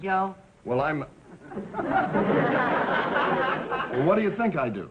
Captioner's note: audience laughing